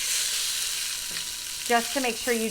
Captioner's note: sizzling